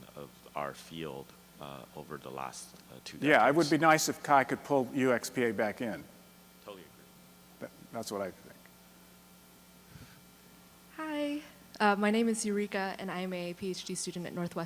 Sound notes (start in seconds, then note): 6.9 voiceover; 11.2 voiceover